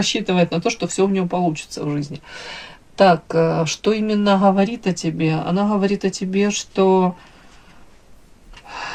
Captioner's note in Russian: вздыхает